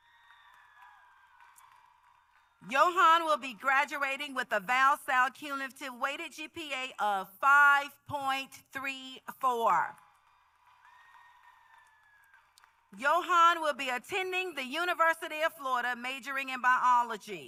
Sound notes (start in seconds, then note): 2.7 applause